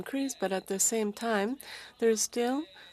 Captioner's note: speaking French